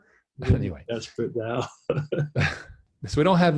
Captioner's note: laughs